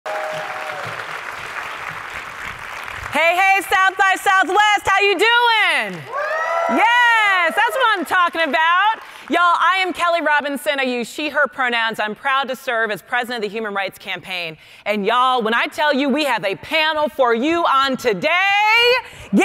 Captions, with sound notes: (audience cheering and clapping) - Hey, hey, South by Southwest, how you doing? (audience cheering) Yes, that's what I'm talking about. Y'all, I am Kelley Robinson, I use she/her pronouns. I'm proud to serve as president of the Human Rights Campaign. And y'all, when I tell you we have a panel for you on today,